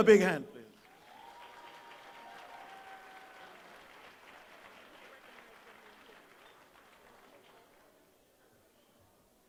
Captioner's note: applause